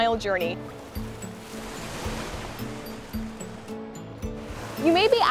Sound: bright, upbeat music; water splashing

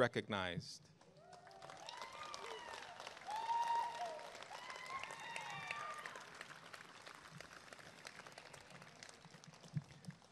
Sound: applause and cheering

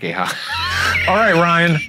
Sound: laughing

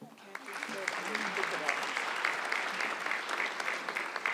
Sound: audience clapping

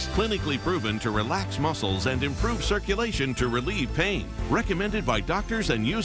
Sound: none

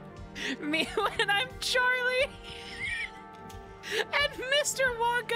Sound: laughter; laughing

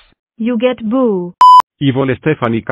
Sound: beep

